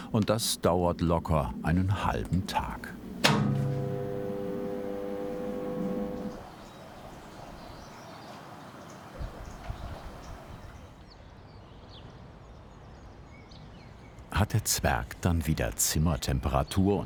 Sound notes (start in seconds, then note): 2.9 clattering, then whirring; 6.2 birdsong, muffled whirring